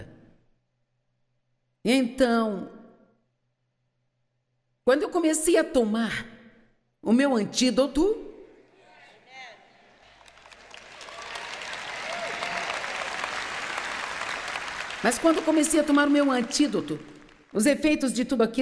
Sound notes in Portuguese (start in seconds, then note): 8.7 audiência aplaude